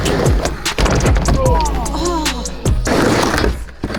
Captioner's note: groaning; skateboard grinding